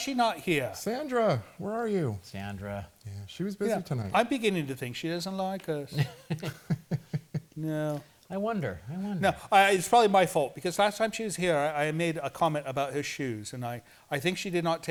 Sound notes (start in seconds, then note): 5.9 laughter